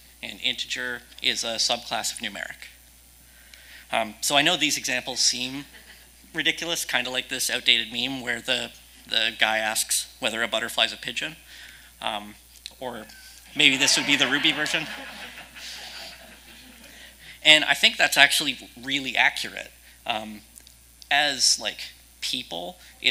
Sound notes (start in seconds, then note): 15.1 audience laughing